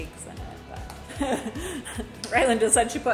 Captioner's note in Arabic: ضحكات خافتة من الكريستال